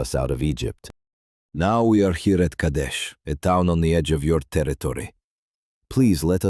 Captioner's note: pleading